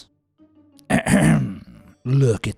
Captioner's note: misleading food spokesperson clears throat